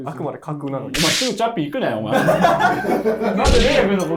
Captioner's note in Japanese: ・スタッフ：笑い